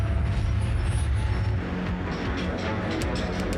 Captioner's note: chatter